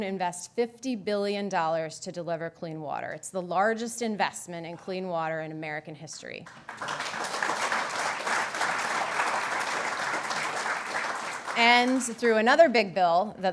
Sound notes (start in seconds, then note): 6.4 applause